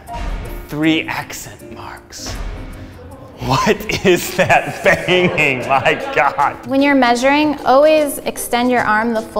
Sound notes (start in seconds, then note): 2.2 loud bangs